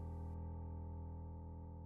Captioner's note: none